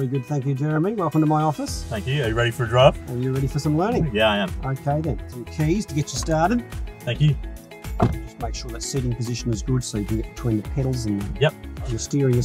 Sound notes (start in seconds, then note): 7.9 car door closing